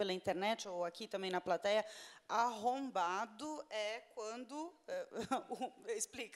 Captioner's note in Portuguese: risos